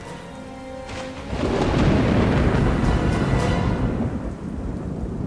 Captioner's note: thunder rumbles